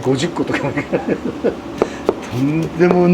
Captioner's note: laughter